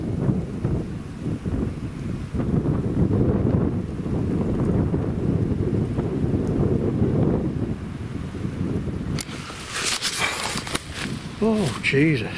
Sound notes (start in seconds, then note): 2.6 wind blows strongly; 10.3 gasps